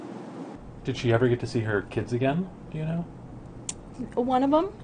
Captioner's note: voiceover